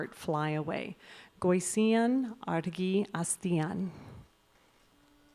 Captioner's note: announcer speaking in Basque